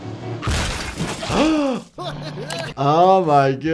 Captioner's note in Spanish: el doctor jadea